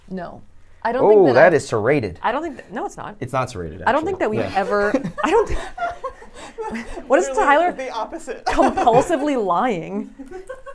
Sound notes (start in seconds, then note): 4.2 laughs; 8.4 laughs; 10.1 chuckles